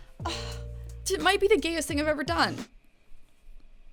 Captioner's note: sighs